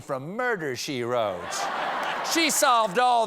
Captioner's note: laughter